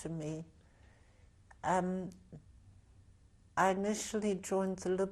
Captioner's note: pauses for 3 seconds